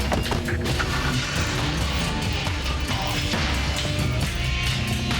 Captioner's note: engine turning; dramatic music